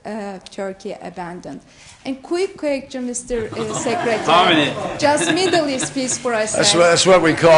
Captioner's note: laughter